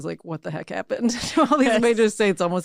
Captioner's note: laughs